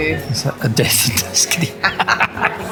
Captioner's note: laughter